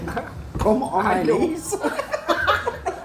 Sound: laugh

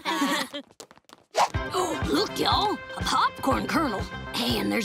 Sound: laughing; gasping

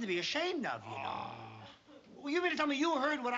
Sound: tonoose grunts dismissively

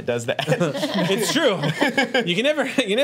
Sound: group laughs

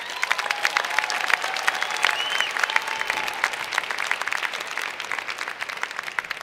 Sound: cheers and Applause

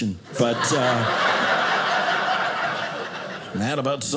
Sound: audience laughing

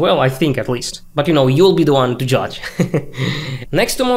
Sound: laughing

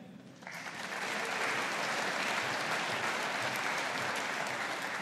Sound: audience applauding

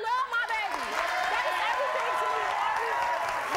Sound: audience applauding

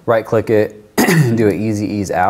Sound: clears throat

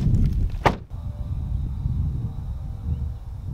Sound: door shuts

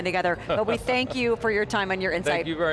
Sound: laughs

